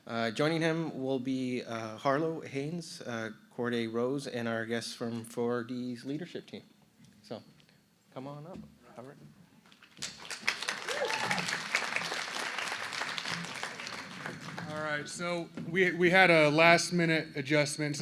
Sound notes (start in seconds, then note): 9.8 applause